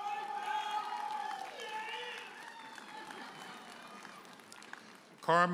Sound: audience hollers and applauds

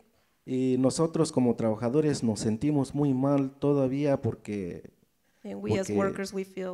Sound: speaks in foreign language

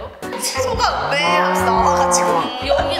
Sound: moo!

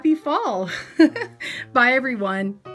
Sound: laughs

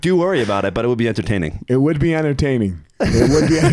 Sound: laughs

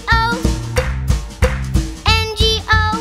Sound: clap

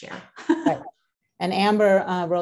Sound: laughs

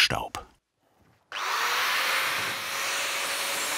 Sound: machine noise

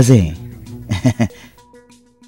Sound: chuckles

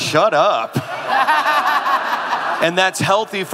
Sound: audience laughing

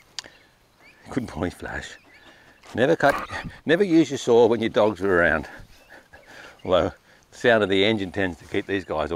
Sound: laugh to self

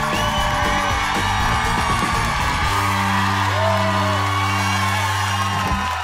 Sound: audience cheering; upbeat music continues

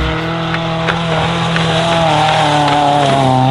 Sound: engine revving

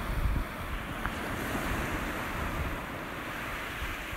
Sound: sea crashes

